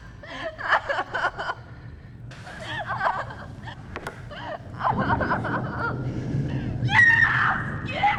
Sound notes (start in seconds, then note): 6.9 Liz screams loudly